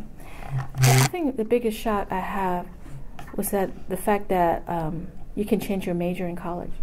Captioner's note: recorder moved